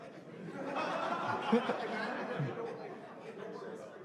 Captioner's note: laughter